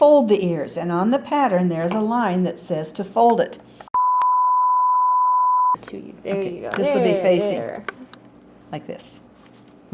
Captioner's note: beep